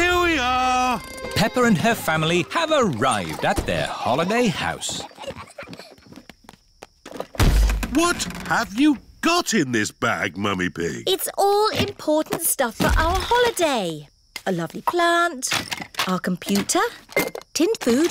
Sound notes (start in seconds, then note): 5.7 peppa and george giggling; 7.3 thud